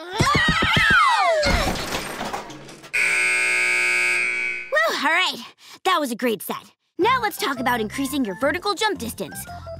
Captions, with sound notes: [screaming] [crashing] [buzzer] Whoo! Alright, that was a great set. Now, let's talk about increasing your vertical jump distance.